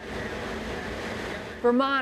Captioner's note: machines roaring